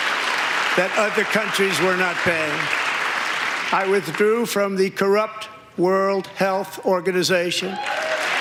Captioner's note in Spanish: aplausos